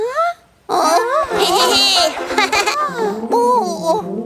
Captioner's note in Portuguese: Risos